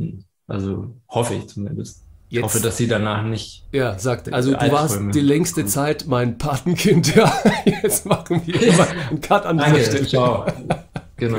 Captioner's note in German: lacht